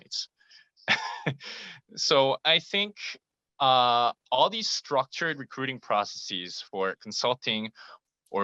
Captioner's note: laugh